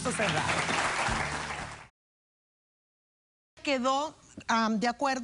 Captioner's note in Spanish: Aplausos